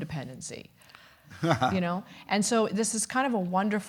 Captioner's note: chuckles